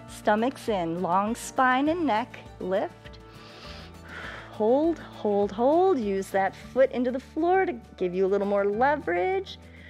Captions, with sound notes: stomach's in, long spine and neck, lift, [inhales] hold, hold, hold. Use that foot into the floor to give you a little more leverage.